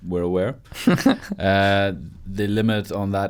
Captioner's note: laughs